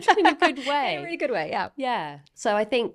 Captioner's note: laughing